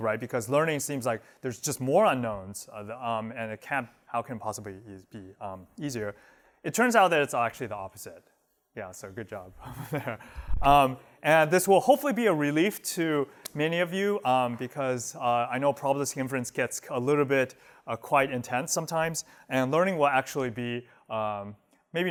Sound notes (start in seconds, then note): 9.6 laughter